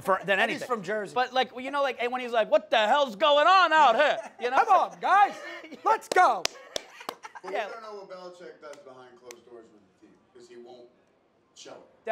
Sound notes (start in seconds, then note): 6.0 claps; 6.8 laughs